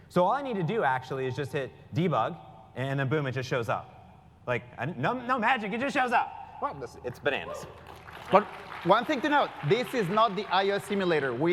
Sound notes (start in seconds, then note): 7.7 applause